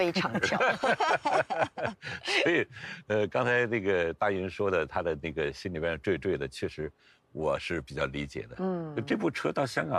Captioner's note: laughs